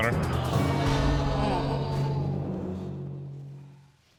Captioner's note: audience exclaiming